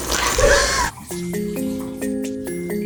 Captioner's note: slurping; laughing